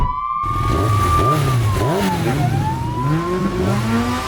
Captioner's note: engines revving